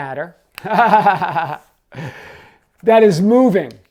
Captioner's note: laughs